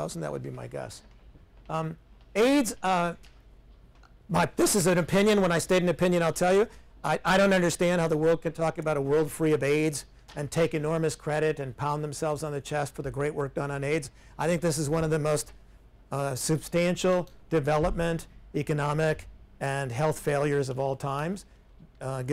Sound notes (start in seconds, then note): none